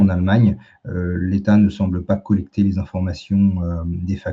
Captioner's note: raclement de gorge